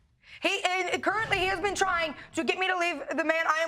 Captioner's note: stammers